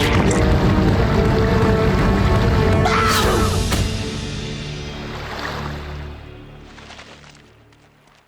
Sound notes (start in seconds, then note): 2.4 grunting